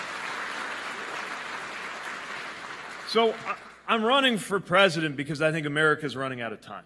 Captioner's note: applause